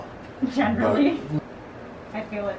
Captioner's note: laughing